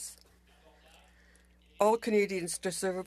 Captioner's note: speaking French